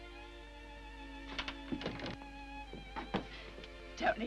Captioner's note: door clicks